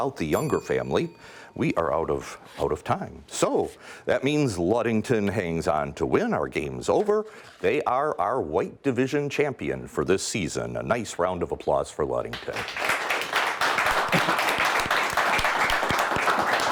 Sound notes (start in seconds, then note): 12.3 clapping